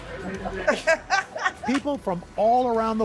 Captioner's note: laughter